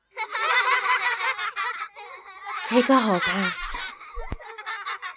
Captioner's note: kids laughing